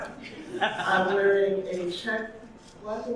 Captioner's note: audience laughing